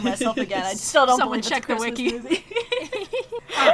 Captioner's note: laughs; laughs